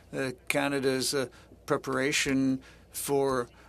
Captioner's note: speaking French